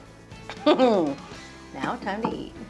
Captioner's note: chuckles contentedly